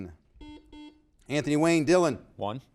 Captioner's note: buzzer beeping